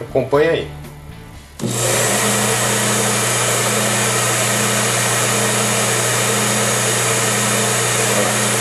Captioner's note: blower on - making noise